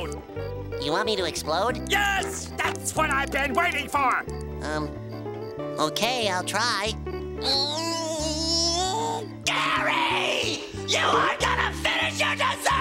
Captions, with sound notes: You want me to explode? Yes, that's what I've been waiting for! Um... OK, I'll try. [groaning] Gary! You are gonna finish your dessert,